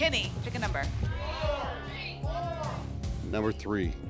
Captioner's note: audience shouting numbers